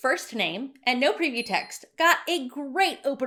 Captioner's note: bell dinging